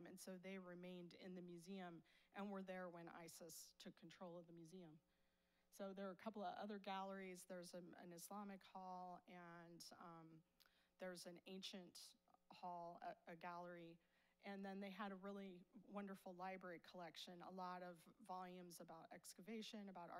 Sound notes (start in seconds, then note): none